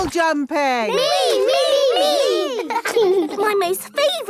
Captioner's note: laughing